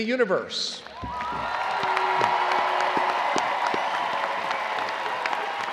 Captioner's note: attendees cheering and applauding